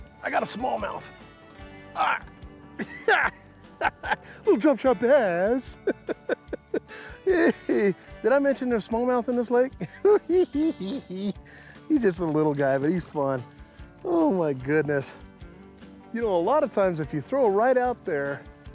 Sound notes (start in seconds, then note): 2.8 laughs; 5.7 laughing; 9.8 giggles